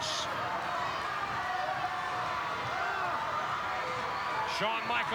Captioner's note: audience cheering